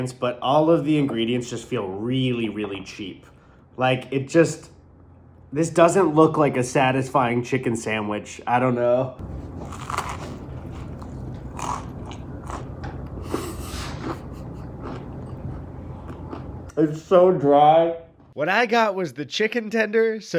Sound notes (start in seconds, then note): 9.6 chicken crunching